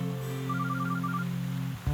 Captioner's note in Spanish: Suena el teléfono